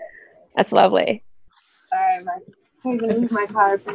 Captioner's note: laughs